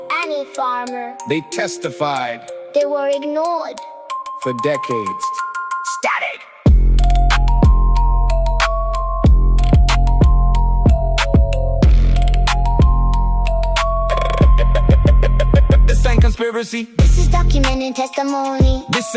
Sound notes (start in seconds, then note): 15.8 voice cycling through every accent chaotically, unhinged energy